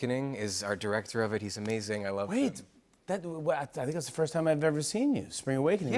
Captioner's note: none